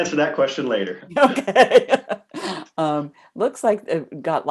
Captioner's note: laughs